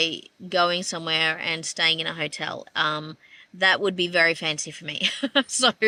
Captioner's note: laughs